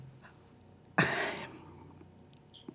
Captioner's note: sighs